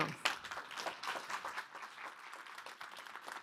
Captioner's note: applause